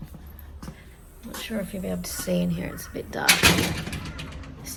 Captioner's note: door clatters shut